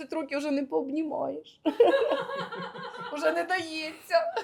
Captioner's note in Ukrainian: сміх